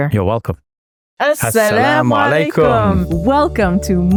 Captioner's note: speaks foreign language